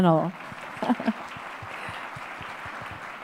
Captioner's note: audience applause